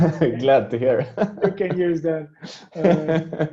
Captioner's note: all laughing